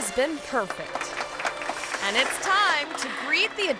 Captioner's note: crowd clapping